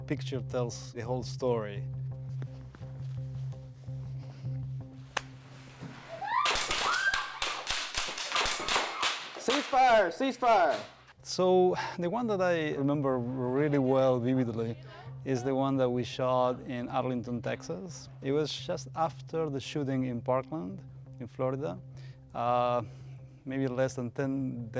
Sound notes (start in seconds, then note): 11.5 gunshots